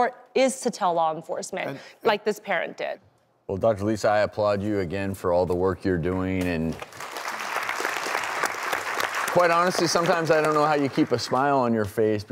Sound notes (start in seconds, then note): 6.7 audience applauding